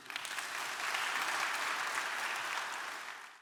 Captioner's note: audience applauding